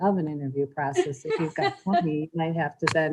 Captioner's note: laughs